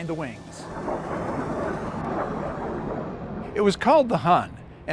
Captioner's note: jet roaring